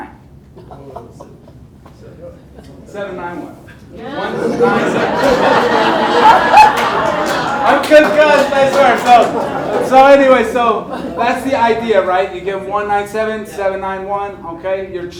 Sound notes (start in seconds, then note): 4.0 audience laughs